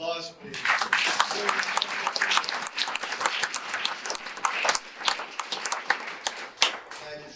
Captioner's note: audience applause